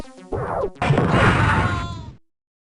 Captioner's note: pew; explosion; Janus screams